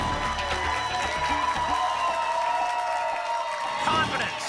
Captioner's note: applause and cheering cont